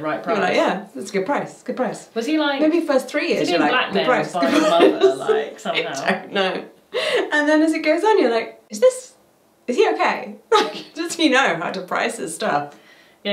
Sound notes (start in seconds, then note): 4.3 laughs